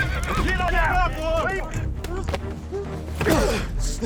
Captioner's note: men shouting; fighting, grunting